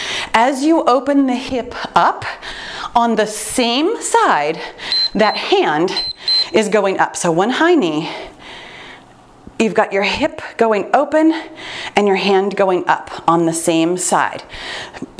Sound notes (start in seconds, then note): 4.8 timer beeps